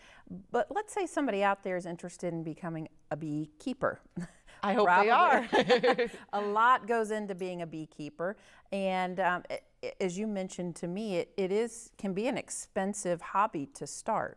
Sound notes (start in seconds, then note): 5.8 chuckle